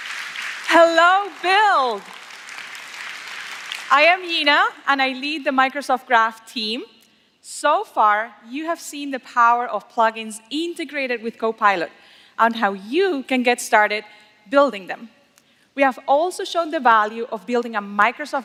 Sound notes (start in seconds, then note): 3.0 applause